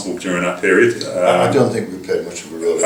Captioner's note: laughter